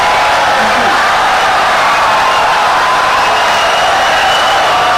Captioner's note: audience cheering, applauding for 17 seconds